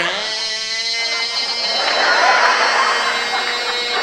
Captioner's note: mimics plane noise